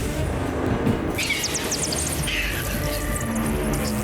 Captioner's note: bats chirp